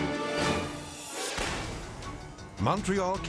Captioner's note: transition whooshes